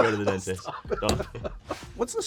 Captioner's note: laughing